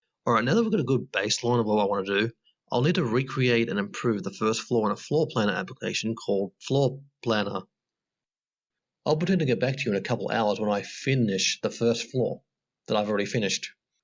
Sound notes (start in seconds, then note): none